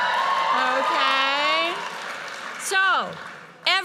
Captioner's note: audience cheers and applauds